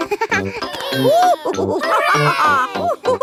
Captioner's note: giggles; children straining; madam gazelle laughing